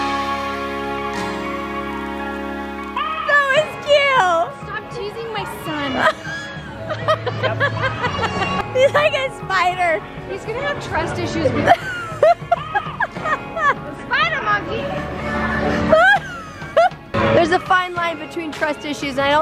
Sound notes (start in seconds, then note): 6.0 laughter; 11.6 laughter; 15.9 laughter